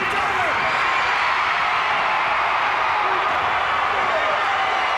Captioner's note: audience cheers